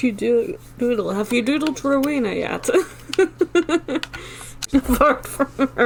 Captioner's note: laughs